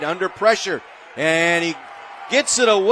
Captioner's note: applause